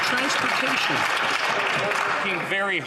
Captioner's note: some Applause